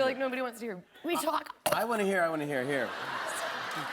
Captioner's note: coughs; laughter